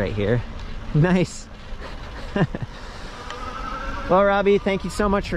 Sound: laughing

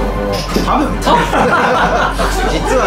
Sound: laughs

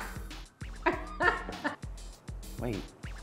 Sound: laughs

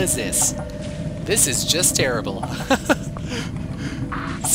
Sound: laughs

